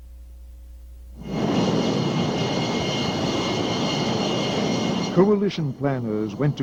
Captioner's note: jet engine roaring